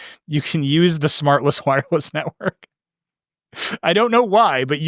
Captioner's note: laughing